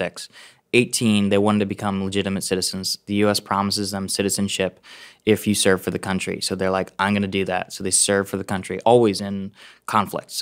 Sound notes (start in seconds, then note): none